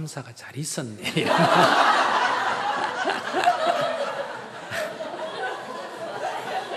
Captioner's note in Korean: 청중 웃음